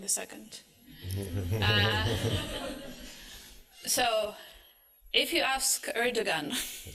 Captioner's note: laughter